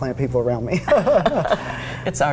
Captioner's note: laughter